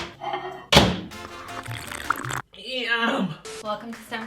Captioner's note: microwave opening and beeping; slurping overlapping with festive music